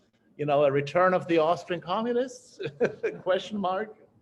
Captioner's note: chuckles